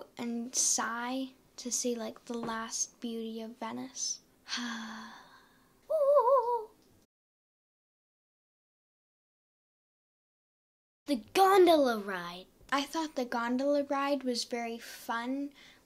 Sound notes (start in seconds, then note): 4.5 sighs; 5.8 Jelly Beans warbles a sigh